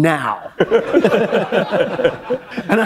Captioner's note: laughter